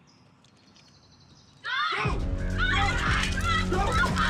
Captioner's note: group screaming